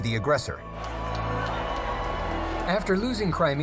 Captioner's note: crowd cheering